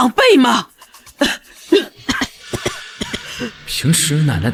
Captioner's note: cough cough cough